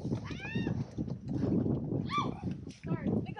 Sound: yells

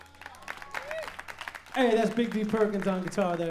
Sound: applause

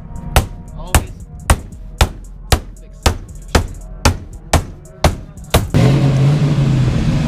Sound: hammering; car engine running

